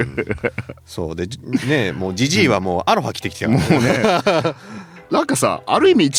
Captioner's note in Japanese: 笑い